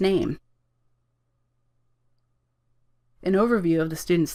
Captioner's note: silence